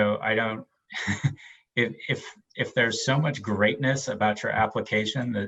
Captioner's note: laughs